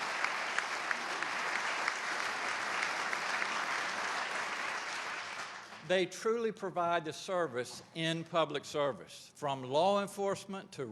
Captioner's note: applause